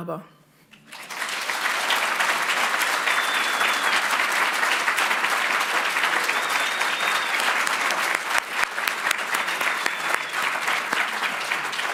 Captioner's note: applause